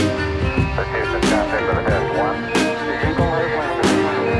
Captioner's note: dramatic music; astronauts speaking faintly